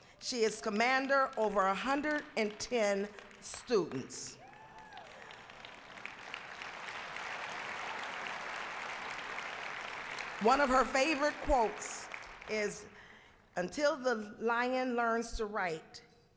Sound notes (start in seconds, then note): 4.9 applause